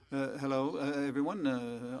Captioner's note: speaking French